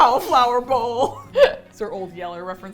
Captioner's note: laughs